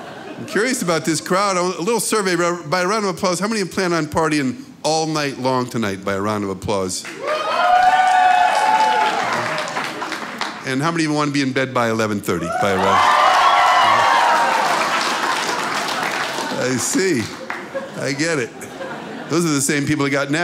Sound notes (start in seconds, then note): 7.6 applause; 12.4 loud applause